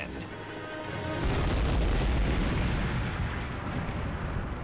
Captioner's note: explosion booming